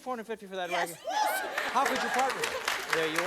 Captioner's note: cheering and applause